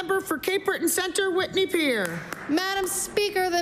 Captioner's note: applause